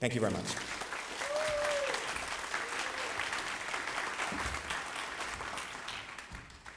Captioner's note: applause